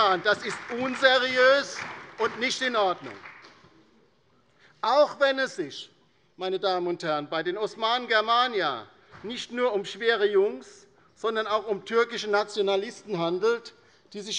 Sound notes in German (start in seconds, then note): 3.0 Beifall bei der LINKEN und der SPD